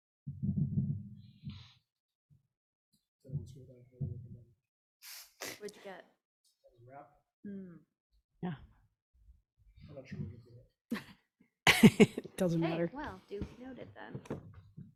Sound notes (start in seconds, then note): 10.4 board member speaking faintly; 11.7 laughs